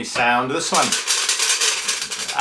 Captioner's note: ice hitting metal